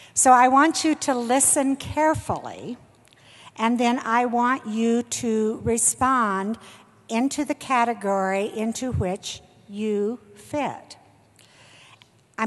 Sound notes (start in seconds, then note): none